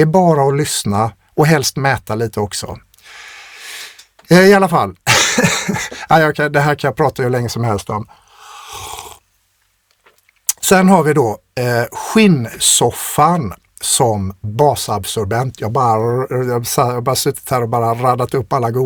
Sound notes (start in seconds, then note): 5.0 laughter; 8.2 scoffs